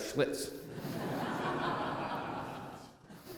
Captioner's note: laughter